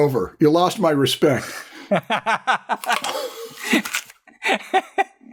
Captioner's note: laughter